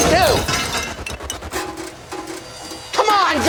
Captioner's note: tray clatters